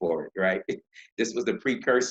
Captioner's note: laughing